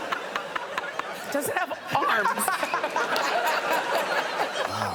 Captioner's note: all laughing